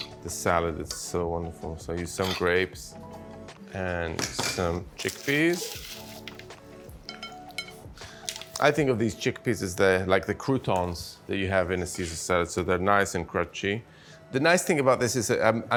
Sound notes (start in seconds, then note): 6.2 soft clanking; 6.2 soft hip-hop music continues